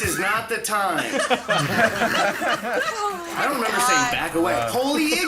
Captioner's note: group laughs